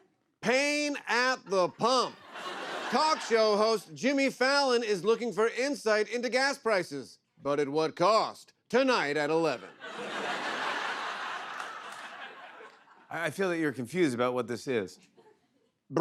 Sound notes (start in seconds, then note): 9.6 laughter